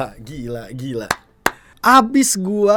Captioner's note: claps